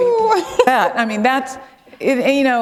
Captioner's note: laughter